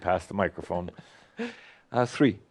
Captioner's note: chuckling